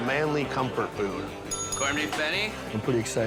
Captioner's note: bell dinging